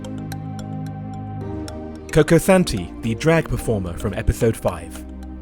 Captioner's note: voiceover